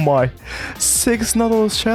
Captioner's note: gasp